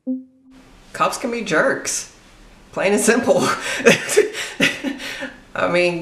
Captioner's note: laughs